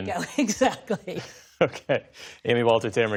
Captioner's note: laughter